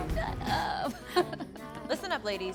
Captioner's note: laughs